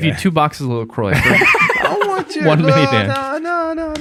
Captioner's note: Angelus laughing